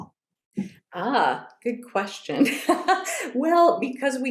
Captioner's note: laughs